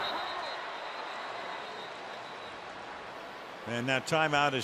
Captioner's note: whistle